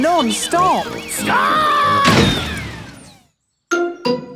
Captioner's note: thuds